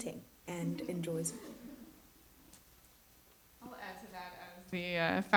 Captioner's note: everyone chuckles